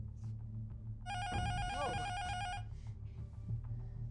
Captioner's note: intercom buzzer rings